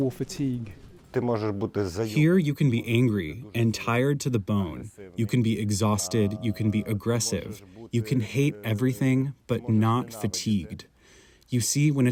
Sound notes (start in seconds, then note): 2.5 through translator